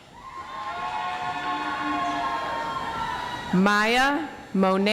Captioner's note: audience applauds